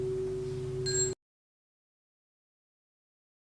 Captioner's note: small bell